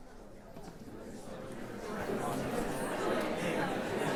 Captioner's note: indistinct chatters